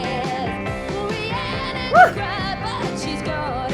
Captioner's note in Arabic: تصيح